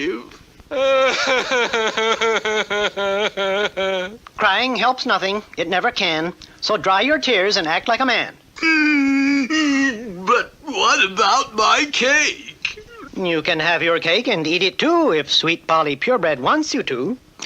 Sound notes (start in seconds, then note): 0.6 King Cup cries hard; 8.6 King Cup stops crying